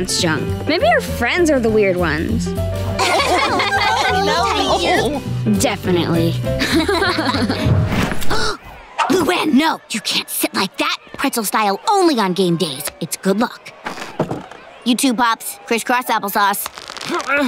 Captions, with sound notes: Maybe your friends are the weird ones. [laughing] Definitely. [laughing] [gasping] Luan, no, you can't sit like that. Pretzel style only on game days. It's good luck. You too, Pops, crisscross applesauce.